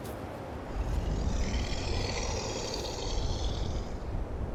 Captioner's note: animal growling